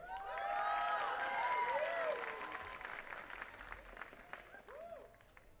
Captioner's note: attendees cheering and clapping